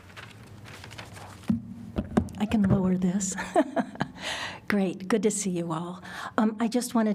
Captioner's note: laughter